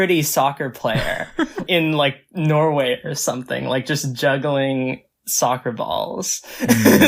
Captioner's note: laughs; laughs